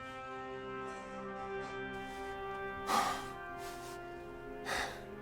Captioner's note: coughs; sighs